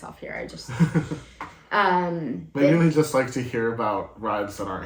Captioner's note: laugh